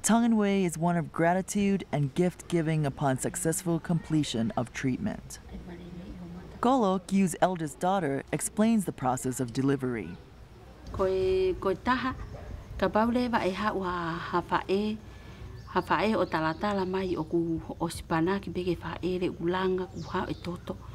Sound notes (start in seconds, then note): 6.2 background foreign language; 10.2 foreign Language